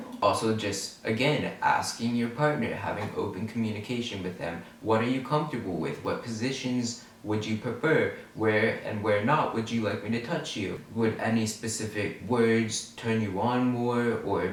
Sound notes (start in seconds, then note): none